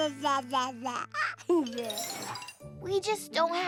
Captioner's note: babbling